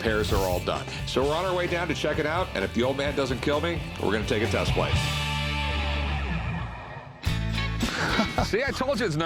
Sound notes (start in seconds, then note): 7.8 laughs